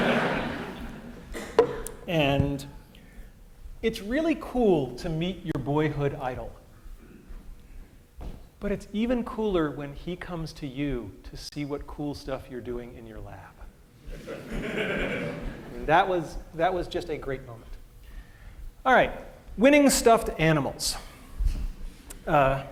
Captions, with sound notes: >> And it's really cool to meet your boyhood idol. But it's even cooler when he comes to you to see what cool stuff you're doing in your lab. [LAUGHTER]. That was just a great moment. Winning stuffed animals.